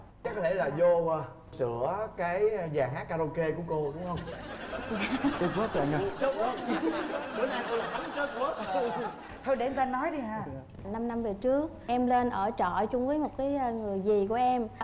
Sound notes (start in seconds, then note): 4.4 laughing